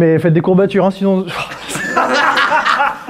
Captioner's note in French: rires